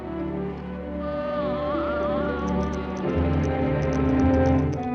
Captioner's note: cooing; toy Rattles